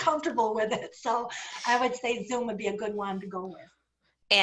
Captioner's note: laughter